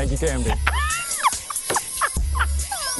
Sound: laughter

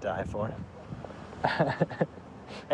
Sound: laughter

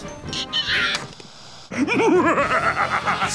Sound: laughing

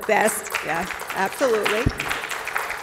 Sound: applause

